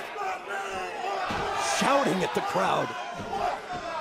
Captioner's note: crowd cheering